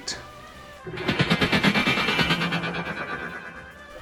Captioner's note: laser sound